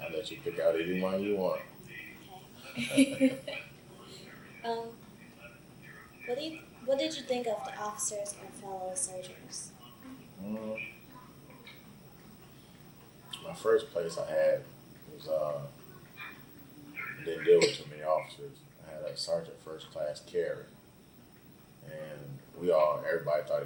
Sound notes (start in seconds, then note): 2.6 both laugh; 13.7 coughs